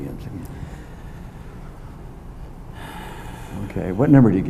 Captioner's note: inhales